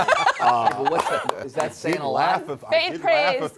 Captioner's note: laughing